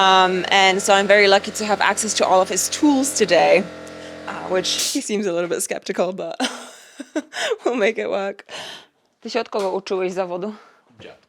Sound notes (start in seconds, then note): 6.4 laughs; 9.4 speaks foreign language